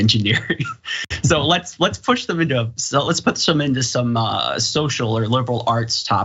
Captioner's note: laugh